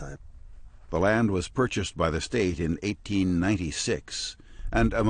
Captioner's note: voiceover